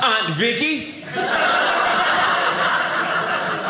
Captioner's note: audience laughing